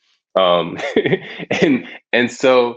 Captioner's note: Shaka laughs